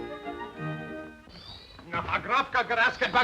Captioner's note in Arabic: موسيقى غريبة; صرير الباب مفتوحا; الرجال يتحدثون بصوت عالٍ بلغة أجنبية